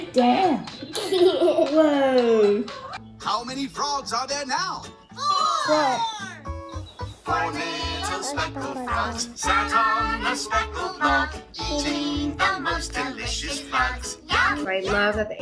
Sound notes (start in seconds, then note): 0.9 child laughs